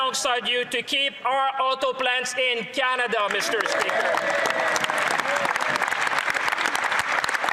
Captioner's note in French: voix de l'interprète